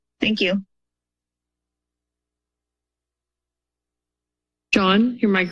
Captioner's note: silence